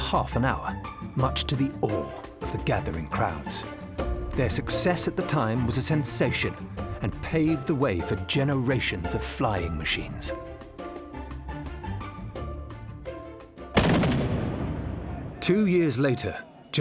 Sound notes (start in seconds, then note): 13.7 gunshot firing